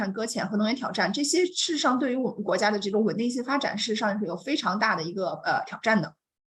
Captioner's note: continues speaking in Mandarin